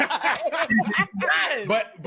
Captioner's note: laughter